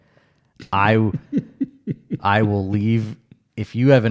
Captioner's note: laughs